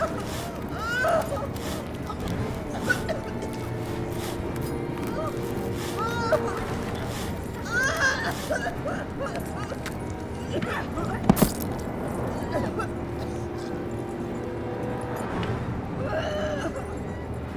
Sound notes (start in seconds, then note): 1.5 Heather crying; 11.3 foot thudding; 13.9 Heather gagging